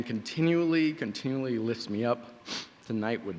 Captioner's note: sniffling